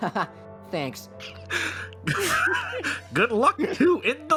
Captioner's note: laughs